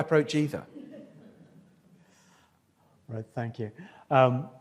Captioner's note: audience laughs